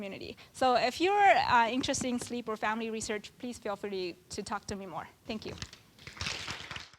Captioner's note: applause